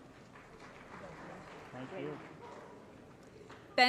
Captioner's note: applause